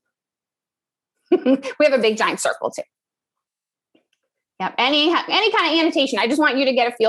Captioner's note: laugh